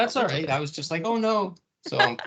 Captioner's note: laughing